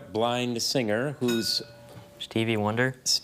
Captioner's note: bell dings